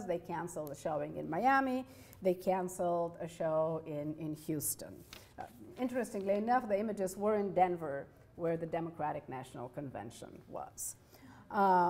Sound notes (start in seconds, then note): none